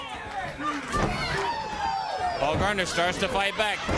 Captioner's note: crowd cheering